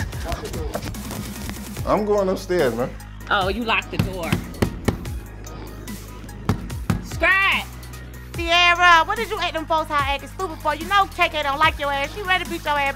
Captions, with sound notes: Lock the door. I'm going upstairs, man. Oh, you locked the door. (pounding on door) Scrapp! Tiarra, what is you at them folks' house actin' stupid for? You know KK don't like your ass. She ready to beat your ass.